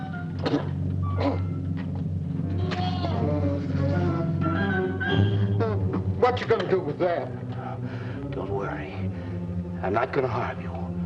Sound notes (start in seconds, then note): 1.1 coughing; 3.7 dramatic music